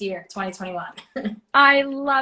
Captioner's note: chuckles